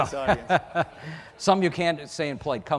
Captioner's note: laughs